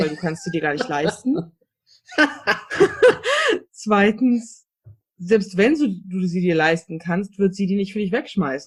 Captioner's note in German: beide lachen